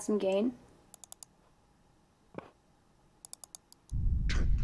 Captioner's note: mouse clicks